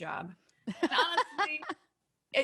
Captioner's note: laughing